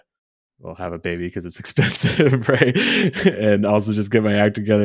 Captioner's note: laughs